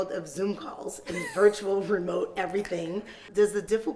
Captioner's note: laughs